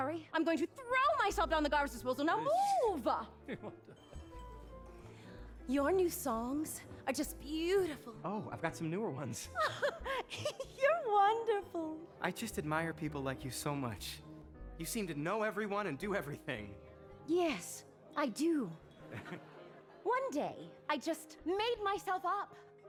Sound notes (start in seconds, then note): 3.5 joe chuckles; 9.5 laughs